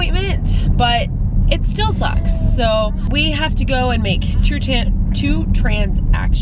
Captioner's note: stutters